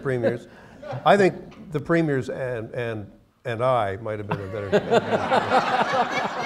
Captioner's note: laughter